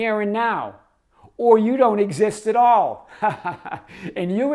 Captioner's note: laughs